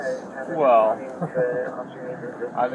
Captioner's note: radio chatter